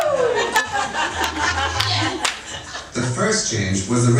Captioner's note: audience cheering